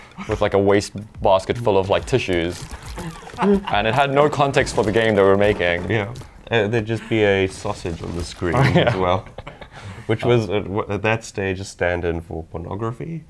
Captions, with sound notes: with like a wastebasket full of like tissues. [LAUGHING] And it had no context for the game that we were making. - Yeah. - There'd just be a sausage on the screen. - Yeah, well. [LAUGHING] - Which was, at that stage, a stand-in for pornography?